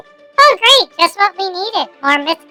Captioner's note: excitedly; sarcastically